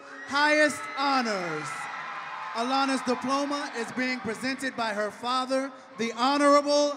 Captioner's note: cheering and applause